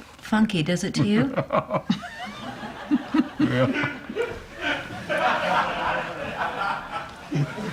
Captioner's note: laughter